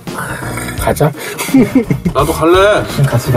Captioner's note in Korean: 웃음소리